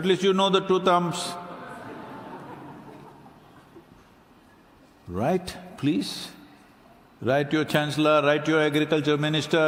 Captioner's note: laughs